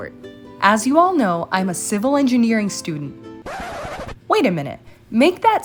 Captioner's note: record scratch